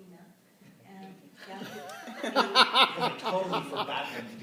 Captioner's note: laughter